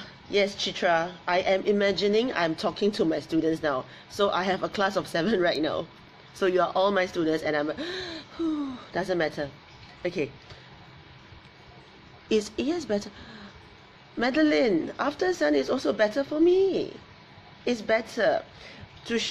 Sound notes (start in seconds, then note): 7.8 gasp